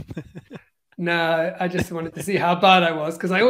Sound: laughs

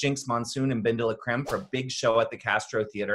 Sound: graphic whooshes

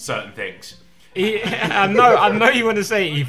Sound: everyone laughing

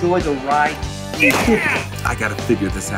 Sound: gun bangs

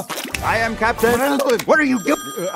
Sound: splash; snap; phone rings; splash

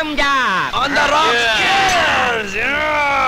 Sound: glass clinks

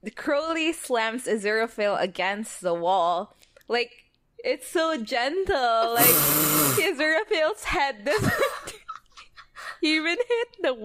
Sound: laughs; laughing

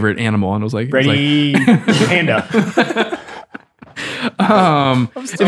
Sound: friars giggle

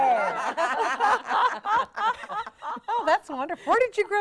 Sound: all laughing

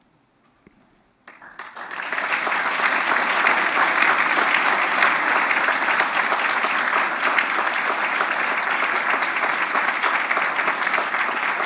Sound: applause

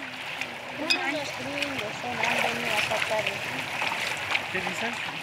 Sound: people chattering

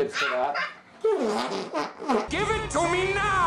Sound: stomach raspberry

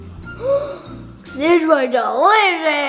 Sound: gasps

